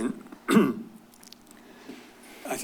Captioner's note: clears throat